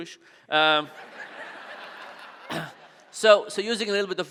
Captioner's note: audience laughing